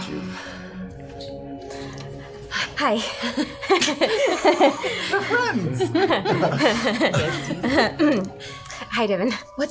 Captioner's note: giggles